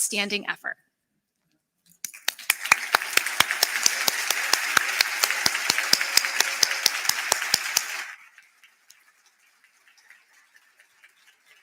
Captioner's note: applause